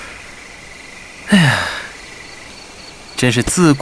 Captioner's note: sigh